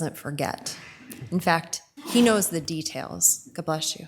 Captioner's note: person sneezes